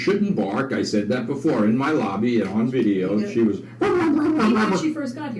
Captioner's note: pretend barking sounds